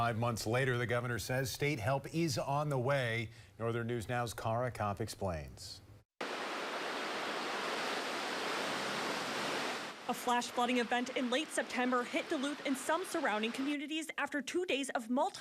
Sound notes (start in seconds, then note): 6.8 nat of flooding